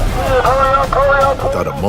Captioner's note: instructor yelling